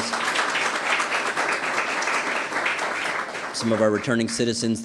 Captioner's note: applause